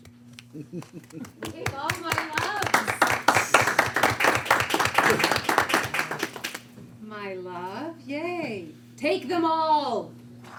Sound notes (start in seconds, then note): 0.7 applaud; 2.8 applaud continues